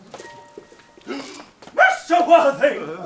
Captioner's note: Lady Bracknell gasps